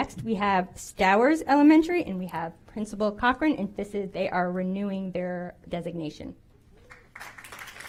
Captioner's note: applause